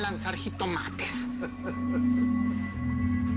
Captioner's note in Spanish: Risas